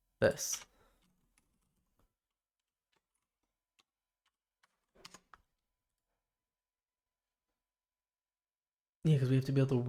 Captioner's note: silence